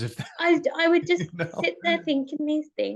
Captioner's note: chuckles